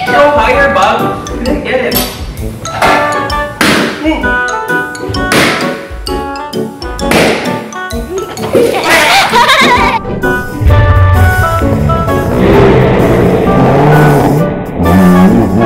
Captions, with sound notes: Uh, go higher Bug, I can't get it. (balloon pops) Ooh! (balloons popping continuously) (slow-mo screaming)